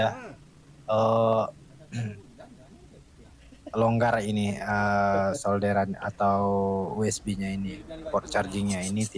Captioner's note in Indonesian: berdehem